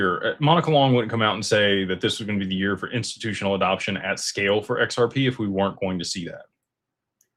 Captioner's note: none